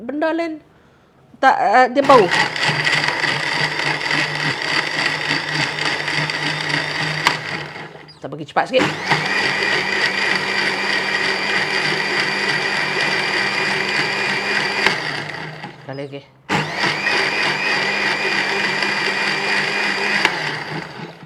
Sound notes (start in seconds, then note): 2.0 sound of blender; 8.7 sound of blender at higher speed